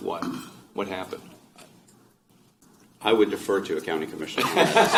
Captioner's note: laughter